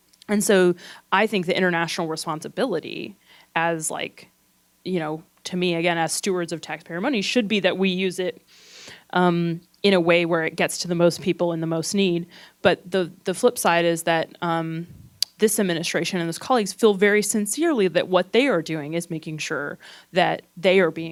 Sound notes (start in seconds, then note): none